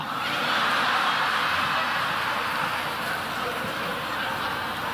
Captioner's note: audience laughing